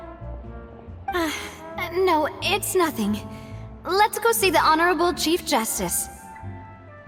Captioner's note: sigh